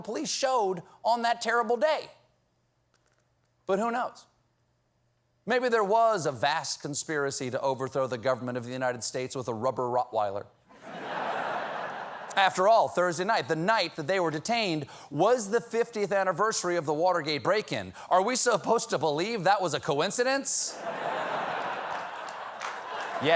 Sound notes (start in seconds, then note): 13.2 laughter; 23.1 applause; 23.1 laughter